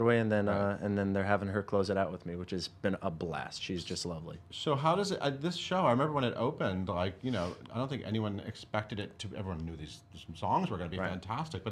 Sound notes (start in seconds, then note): none